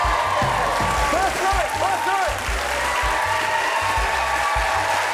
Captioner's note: cheers; applause